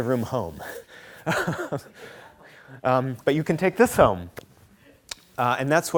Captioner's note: chuckles